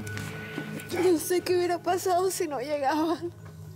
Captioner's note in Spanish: Ella solloza